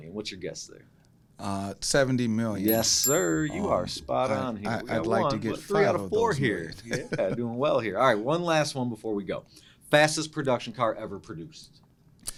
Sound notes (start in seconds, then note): 2.6 bell rings; 6.7 laughs